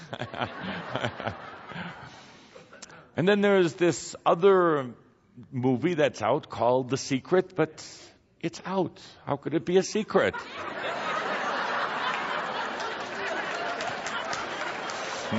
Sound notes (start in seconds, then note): 0.0 Kuthumi and audience laughs; 10.3 lots of laughter and applause